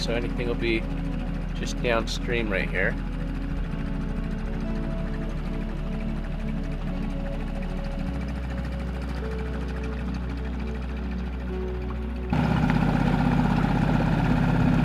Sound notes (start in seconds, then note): 3.9 boat spluttering; 3.9 somber music